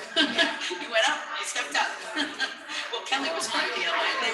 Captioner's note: laughs